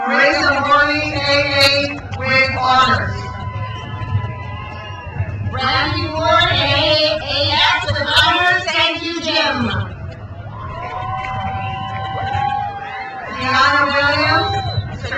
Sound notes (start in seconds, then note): 3.3 crowd cheers; 10.4 crowd cheers